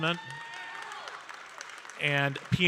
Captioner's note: audience cheering and applauding